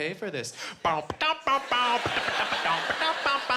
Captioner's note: imitating funk music